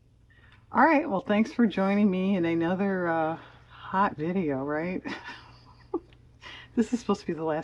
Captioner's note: laughs